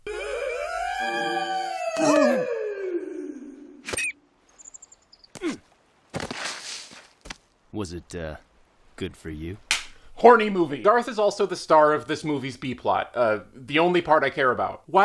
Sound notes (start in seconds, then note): 0.0 bad howling; 3.8 bird thuds, squeals; 5.3 grunts, slides; 9.7 clap